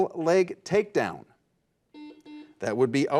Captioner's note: buzzer buzzes